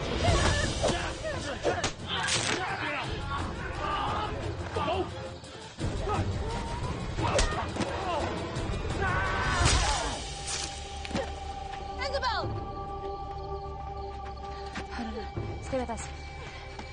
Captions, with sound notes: - [bone breaks] - [man screams] Ah! Isabelle! Oh, no, no. Stay with us.